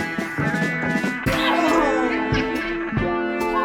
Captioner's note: audience laughter; smack